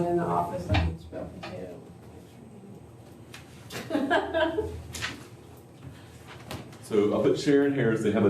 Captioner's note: laughter